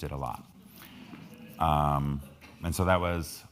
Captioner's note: crowd laughing